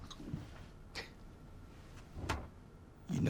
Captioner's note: scoffs, door closes